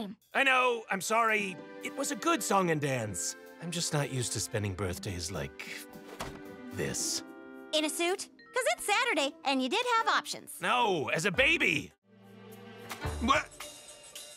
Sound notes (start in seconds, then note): none